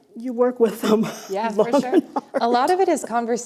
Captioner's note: laughter